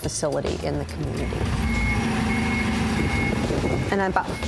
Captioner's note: forklift beeping